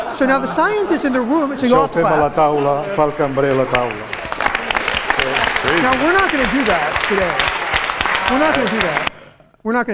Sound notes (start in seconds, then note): 2.9 applause; 3.0 non-english speech